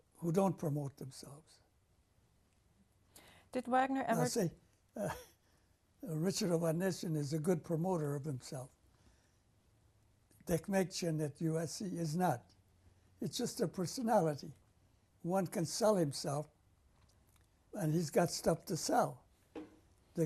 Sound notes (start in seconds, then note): 5.0 laughs